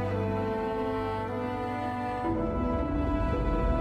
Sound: ship engine rumbling

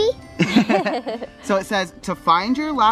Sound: laughing

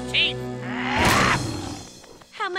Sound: growling

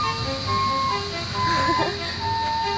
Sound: chuckles

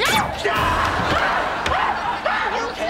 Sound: screaming

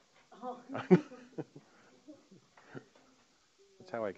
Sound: laughing

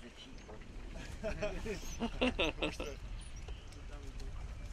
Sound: laughter

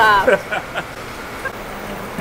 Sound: chuckling

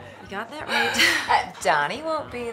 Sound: chuckles

